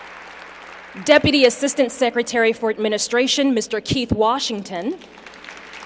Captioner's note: applause